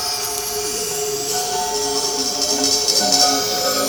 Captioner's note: hissing